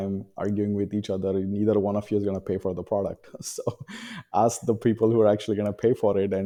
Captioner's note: he laughs